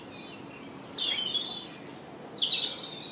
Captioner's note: birdsong